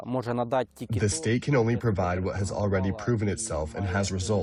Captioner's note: through translator